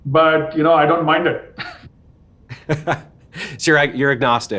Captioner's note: shared laughter